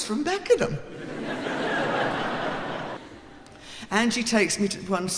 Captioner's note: laughing